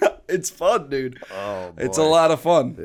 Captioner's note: chuckle